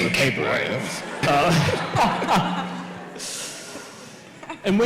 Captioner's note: audience laughs